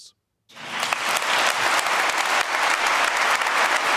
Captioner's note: applause